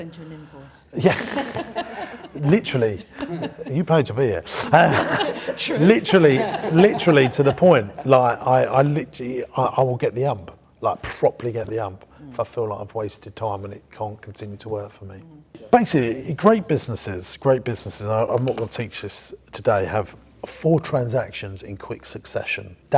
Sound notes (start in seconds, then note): 1.3 laughing; 4.9 laughing